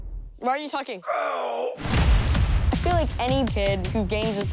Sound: groaning

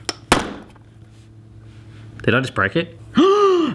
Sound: banging; gasping

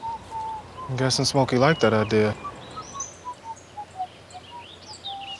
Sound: continues whistling

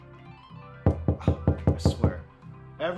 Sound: door knocking

